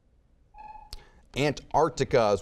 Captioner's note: buzzer beeping